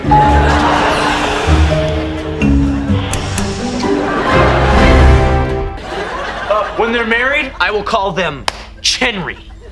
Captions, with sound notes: [laughing] Oh, when they're married, I will call them Chenry!